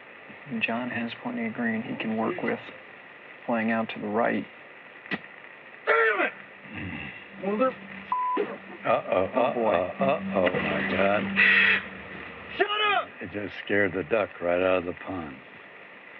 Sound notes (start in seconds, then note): 11.1 bird squawks